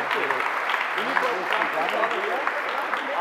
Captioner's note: applause